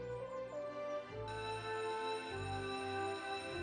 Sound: bell rings

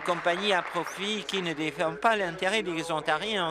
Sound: applause

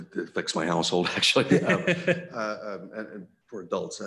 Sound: laughs

